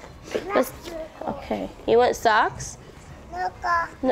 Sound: mumbles

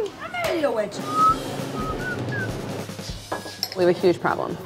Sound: energetic rock music; whistling

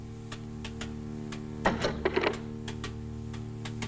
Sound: suspenseful music; sound of wooden object falling; suspenseful music

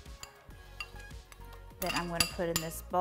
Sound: spoon taps against bowl

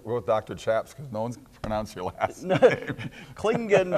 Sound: laughing

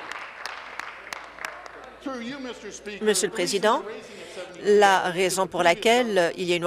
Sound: applause

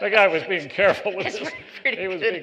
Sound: laughter

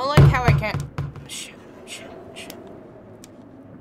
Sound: quietly

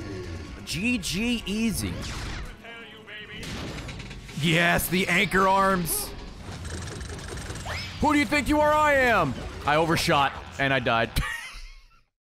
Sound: laughs

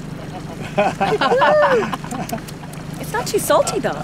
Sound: group laughing

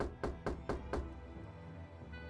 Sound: loud knocking

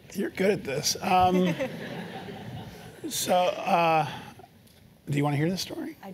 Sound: laugh

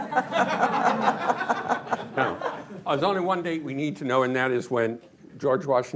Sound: laughter

